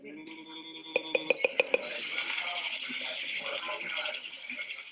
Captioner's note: beeping